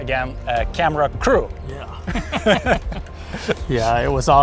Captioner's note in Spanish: risas